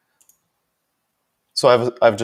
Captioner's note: mouse clicking